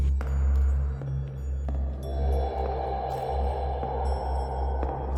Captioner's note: footsteps